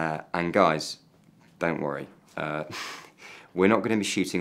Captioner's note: chuckles